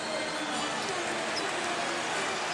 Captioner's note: whistle blows